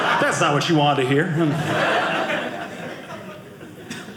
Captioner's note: audience laughing